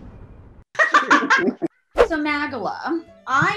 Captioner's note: laughing